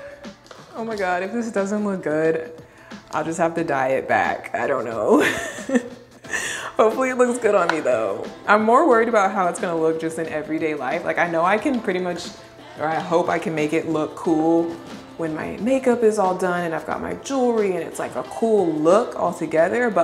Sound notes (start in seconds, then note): 5.4 laughs